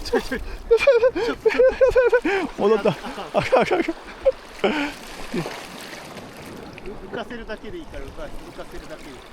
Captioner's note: laugh